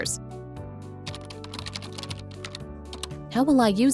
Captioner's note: typing